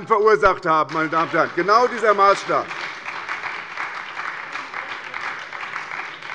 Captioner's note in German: Beifall bei der SPD